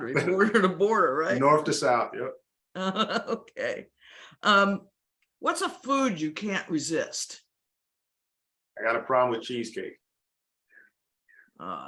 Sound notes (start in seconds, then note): 4.2 laughs